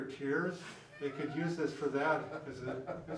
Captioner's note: laughing